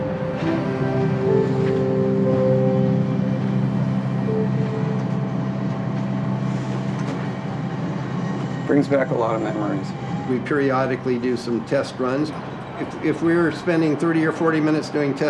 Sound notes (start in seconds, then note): 4.3 distant sound of Angel's Flight